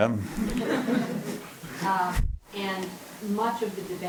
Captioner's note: laughter